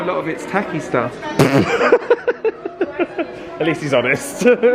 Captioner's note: laughing